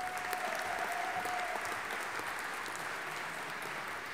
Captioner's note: audience applauding